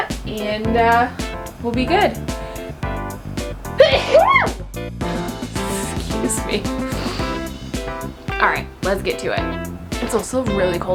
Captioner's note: sneezes